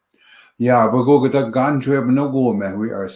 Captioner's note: Anishinaabemowin language